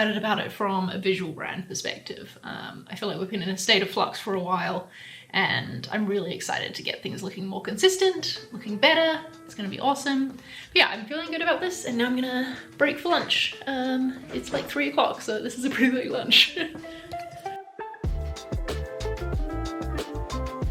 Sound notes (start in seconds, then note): 16.4 upbeat music; 16.5 chuckles